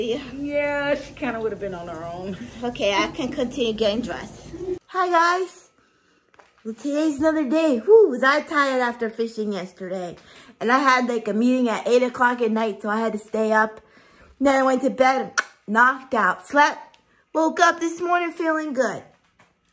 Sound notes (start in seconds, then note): 15.0 tongue clicks